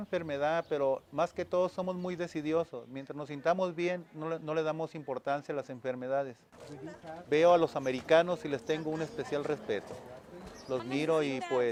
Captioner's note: foreign language spoken